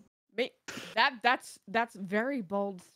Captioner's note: laughs